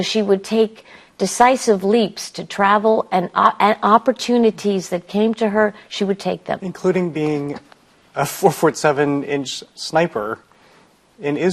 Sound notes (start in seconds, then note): none